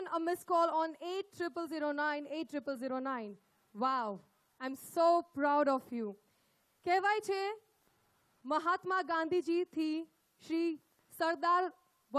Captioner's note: speaks in Hindi – not transcribed